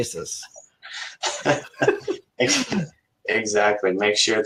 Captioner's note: laughs